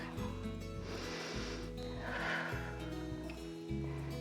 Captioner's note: inhales and exhales